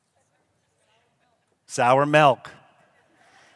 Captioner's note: laughter